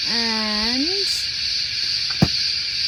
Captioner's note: small bottles thud into box